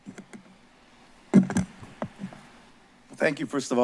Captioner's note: microphone tapping